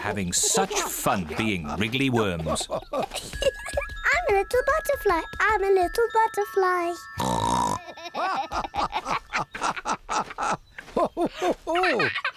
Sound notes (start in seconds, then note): 7.2 snorts; 7.5 both continue laughing